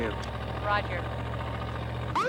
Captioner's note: woman On Radio